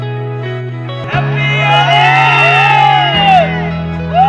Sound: crowd cheering

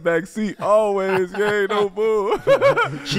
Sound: laughs

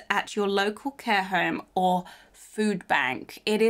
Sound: none

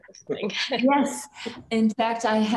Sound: chuckles

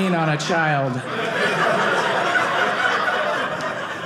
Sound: audience laughing

